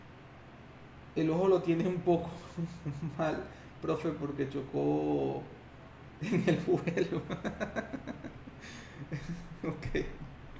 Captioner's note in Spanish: risas